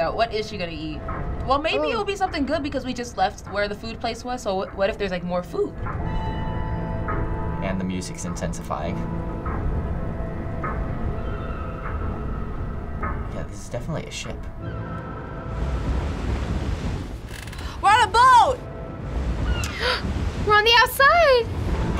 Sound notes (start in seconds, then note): 5.8 eerie music; 14.6 seagulls squawking; 14.6 ship horn blaring; 18.9 waves crashing; 19.6 gasping